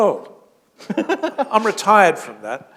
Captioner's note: laughter